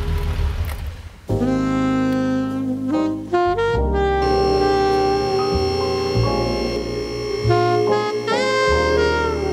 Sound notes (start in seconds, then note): 1.2 smooth jazz; 4.3 car lift buzzing